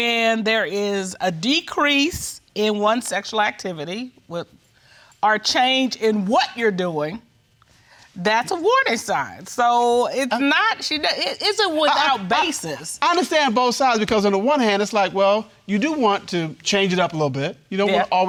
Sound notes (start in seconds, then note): none